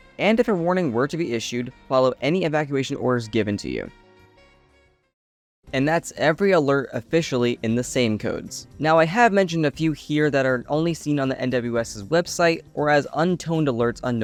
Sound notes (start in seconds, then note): none